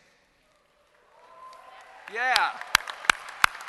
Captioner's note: applause